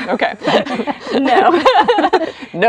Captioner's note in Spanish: women laugh